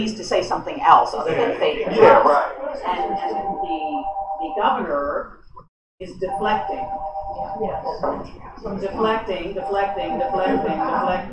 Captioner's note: laughter